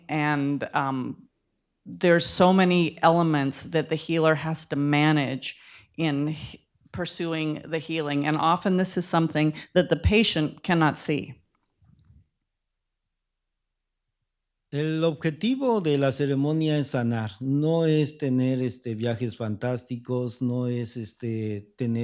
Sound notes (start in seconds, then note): 16.0 speaking spanish